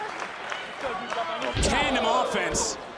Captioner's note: crowd clapping